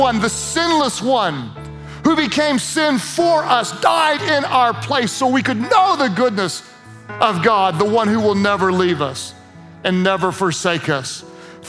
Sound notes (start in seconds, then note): none